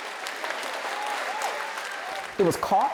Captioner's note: crowd applause